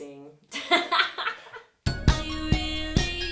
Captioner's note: laughing; upbeat electronic music